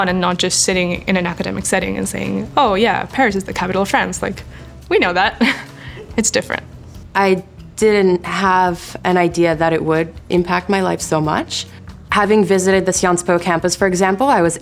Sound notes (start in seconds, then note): 5.2 laughing